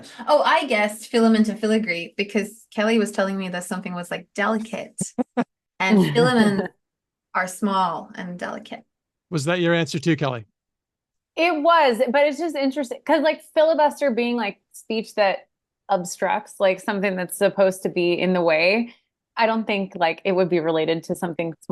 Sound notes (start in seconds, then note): 5.0 laughs